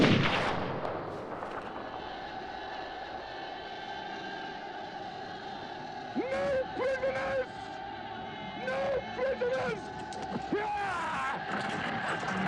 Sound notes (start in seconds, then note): 2.3 yelling